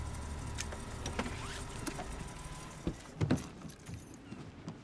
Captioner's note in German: motor wird abgeschaltet